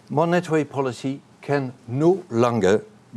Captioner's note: none